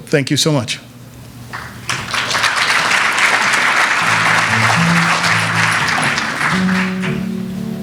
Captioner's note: applause